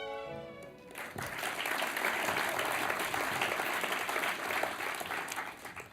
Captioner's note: applause